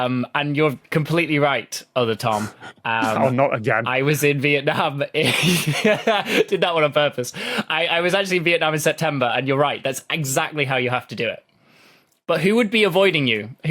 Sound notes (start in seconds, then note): 5.8 laughs